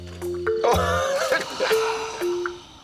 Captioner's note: laughs